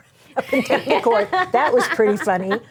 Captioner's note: laughing